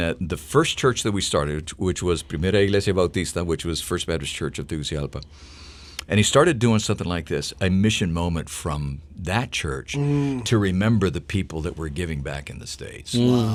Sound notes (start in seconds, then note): 2.2 speaking foreign language